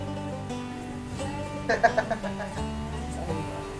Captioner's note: laughs